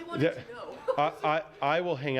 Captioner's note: laughter